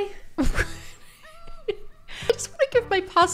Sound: laughs

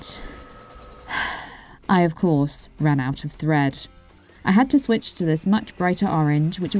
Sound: sigh

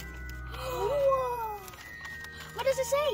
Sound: gasps

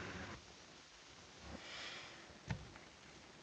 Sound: sighs

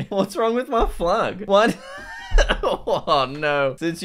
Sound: laughs

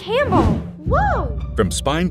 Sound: whooshing

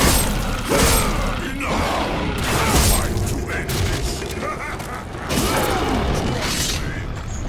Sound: laughs

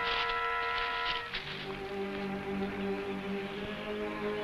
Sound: leaves crunching; tense music

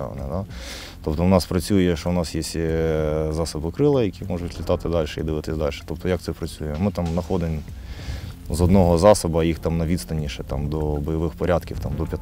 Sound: drone

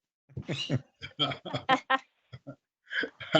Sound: chuckling

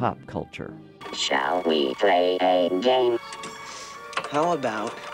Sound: electronic voice

